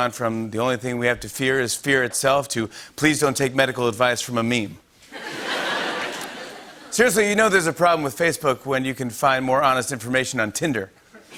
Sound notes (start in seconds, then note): 5.1 laughter